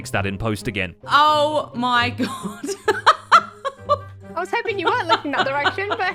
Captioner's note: laughs